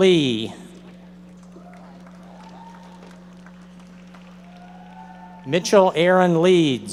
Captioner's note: audience members applauding